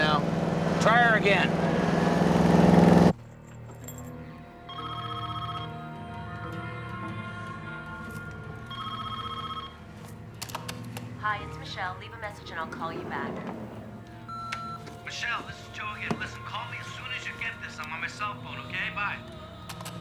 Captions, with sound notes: Try her again. (phone ringing) (answering machine clicks) Hi, it's Michelle. Leave a message, and I'll call you back. (answering machine beeps) Michelle, this is Joe again. Listen, call me as soon as you get this. I'm on my cell phone. Okay? Bye.